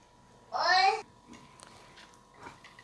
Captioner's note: my youngest one is speaking some gibberish in the back